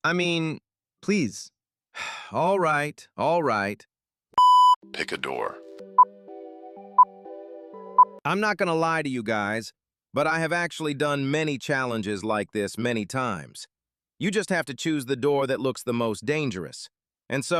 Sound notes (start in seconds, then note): 1.9 sigh